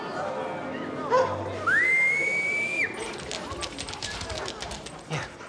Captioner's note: Alexander whistles